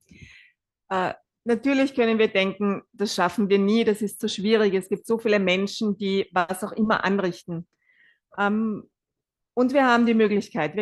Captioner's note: German live translation